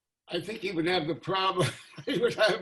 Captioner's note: laughing